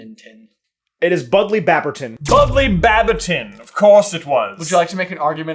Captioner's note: accented